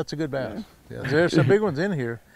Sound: chuckling

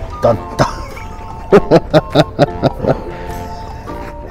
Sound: laughs

